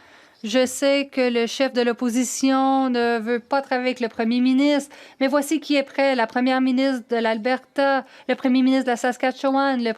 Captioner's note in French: voix de l'interprète